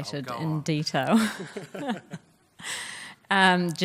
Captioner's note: laughs